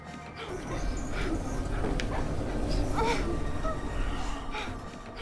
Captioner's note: elevator rumbling